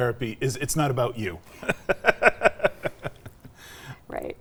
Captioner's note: laughing